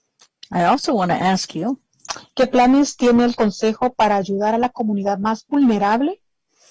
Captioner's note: speaking spanish